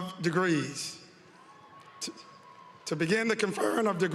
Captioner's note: applause